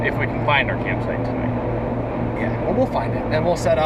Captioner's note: none